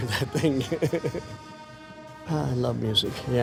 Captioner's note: laughs